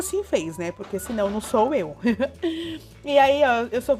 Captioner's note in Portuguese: Risos